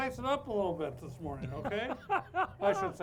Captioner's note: laughs